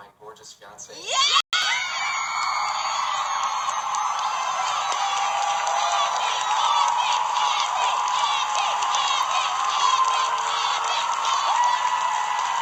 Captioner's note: Audience cheering and screaming “Andy!”